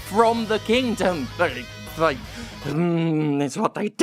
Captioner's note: grumbles